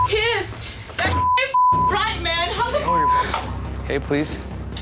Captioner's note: beep